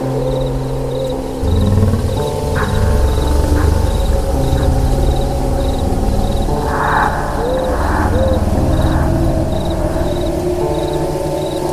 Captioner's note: slowed